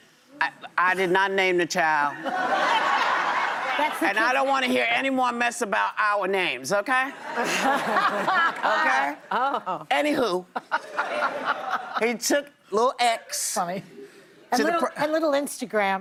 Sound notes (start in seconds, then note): 4.2 laughter